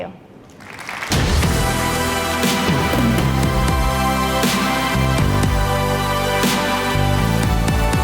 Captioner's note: applause/music playing